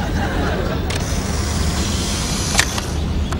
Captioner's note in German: Klicken